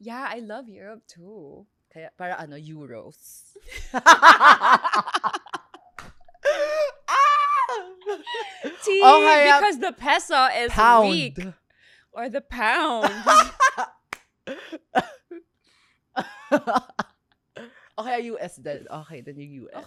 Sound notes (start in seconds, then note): 7.1 laughs; 13.0 laughs